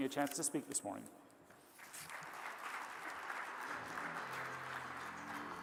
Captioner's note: crowd applauding; bright music